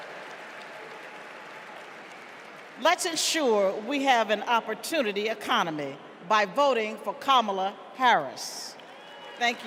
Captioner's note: cheers and applause